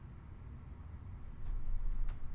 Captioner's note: none